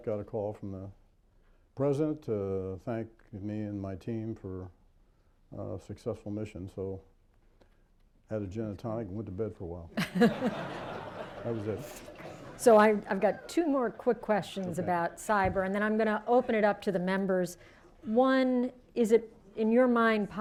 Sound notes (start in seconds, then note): 9.9 laughter